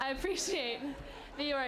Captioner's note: laughter